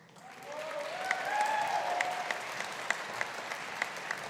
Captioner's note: audience applauding